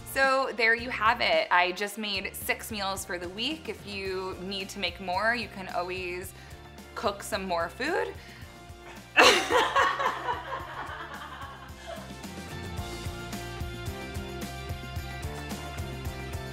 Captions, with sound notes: So, there you have it. I just made 6 meals for the week. If you need to make more, you can always cook some more food. (laughs) (uplifting music)